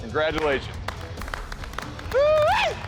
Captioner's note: applause